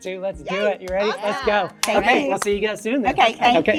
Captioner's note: taps